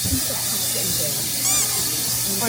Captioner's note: haha